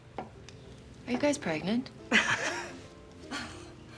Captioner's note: both laughing